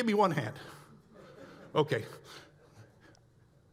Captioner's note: audience laughs